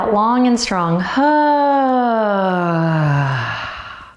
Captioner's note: loudly sighs